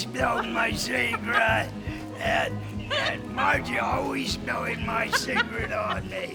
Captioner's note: laughter